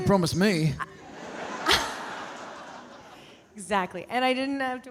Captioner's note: audience laughing